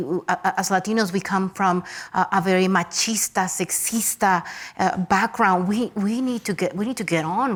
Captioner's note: speaks Spanish